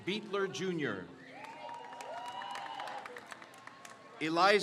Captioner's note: crowd cheers